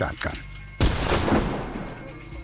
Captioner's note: gunshot